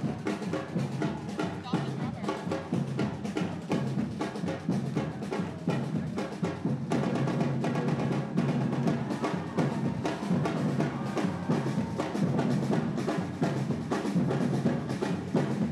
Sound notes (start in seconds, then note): 0.1 crowd cheering; 4.4 drums; 10.4 crowd cheering